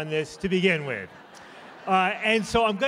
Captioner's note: laughter